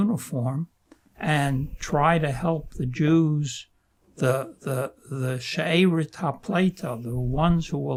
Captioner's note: non-english